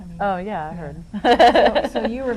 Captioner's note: laughs